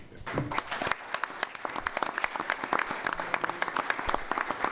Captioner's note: applause